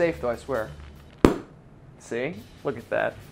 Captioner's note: cork popping